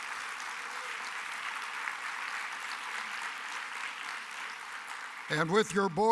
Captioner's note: applause